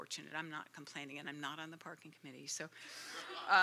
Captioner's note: laughter